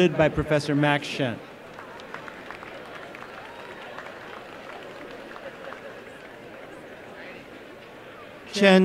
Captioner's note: applause